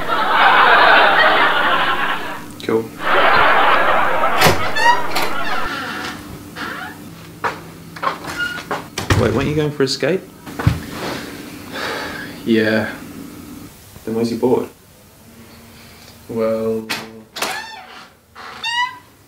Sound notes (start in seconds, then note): 0.0 laughing; 3.8 door opens; 12.0 sighs; 17.4 door opens